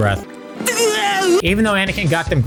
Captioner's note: noises of disgust